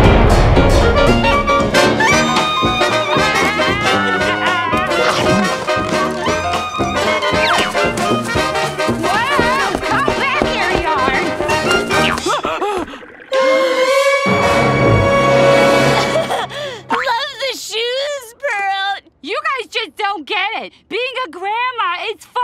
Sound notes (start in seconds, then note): 1.8 laughing; 11.8 laughing; 12.3 gasping; 15.9 laughing